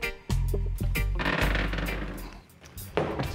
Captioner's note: creaks